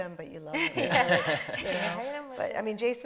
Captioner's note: panelists laughing